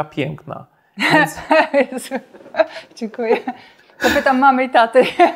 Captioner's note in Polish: śmiech